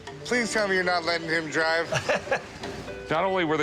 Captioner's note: chuckles